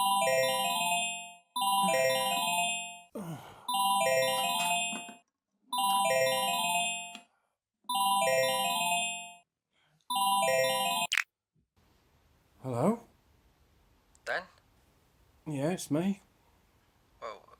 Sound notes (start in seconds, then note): 0.1 phone ringing; 3.1 Dan groans; 3.7 phone ringing